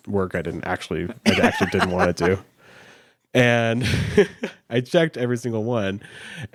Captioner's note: laughs